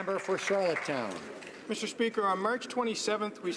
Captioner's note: some Applause